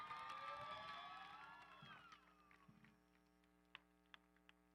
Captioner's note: audience cheering